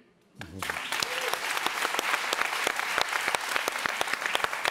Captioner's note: audience applauds